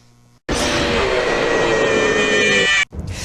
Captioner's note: roars